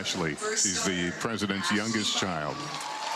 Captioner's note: applause